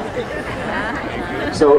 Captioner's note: audience laughs